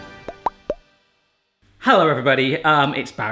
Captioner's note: popping